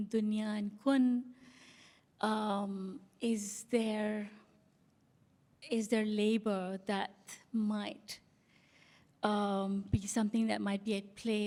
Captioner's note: non-english